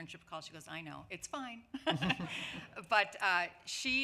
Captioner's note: laughs